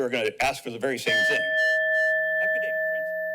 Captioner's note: bell rings